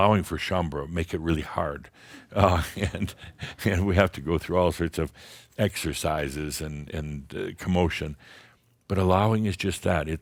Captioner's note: Adamus chuckles